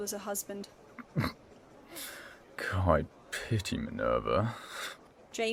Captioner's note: Fleamont chokes back a laugh